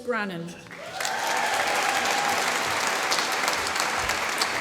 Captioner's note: applause